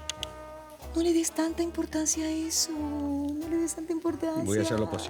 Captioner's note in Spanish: Chasquido bucal